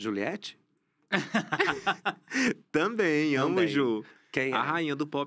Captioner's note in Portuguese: risos